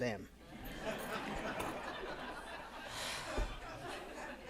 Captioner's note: attendees laughing